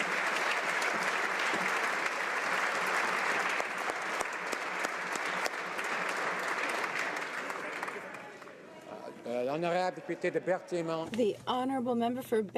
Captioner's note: applause